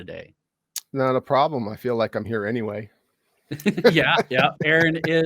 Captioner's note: chuckles